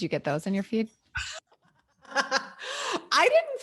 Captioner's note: laughing